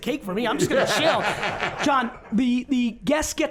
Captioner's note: Jon laughs